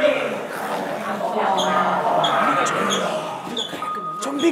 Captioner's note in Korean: 좀비들의 배웅하는 소리